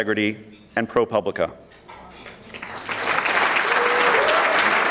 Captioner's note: audience clapping